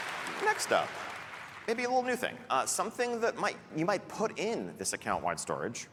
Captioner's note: applause